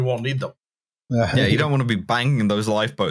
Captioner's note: laughs